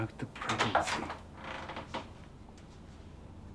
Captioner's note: door creaking open